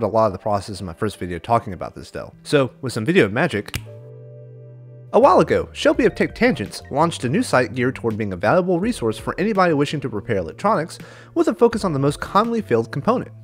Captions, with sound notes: of this process in my first video talking about this Dell, so with some video magic… (snap) A while ago, Shelby of Tech Tangents launched a new site geared towards being a valuable resource for anybody wishing to repair electronics with a focus on the most commonly failed component,